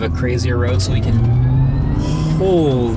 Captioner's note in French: la voiture bourdonne doucement